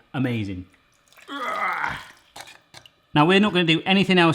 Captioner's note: groans